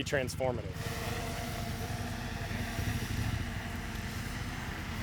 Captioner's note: motor whirring